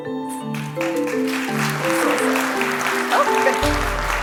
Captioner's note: applause